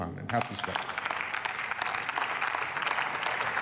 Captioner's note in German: Beifall